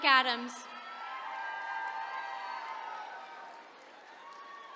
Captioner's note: attendees cheering